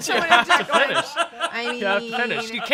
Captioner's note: off-camera laughing